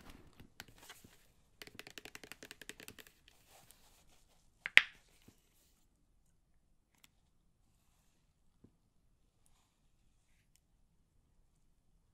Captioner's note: vaseline tapping